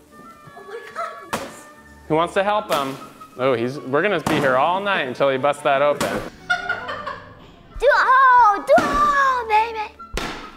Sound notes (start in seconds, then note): 6.4 laughing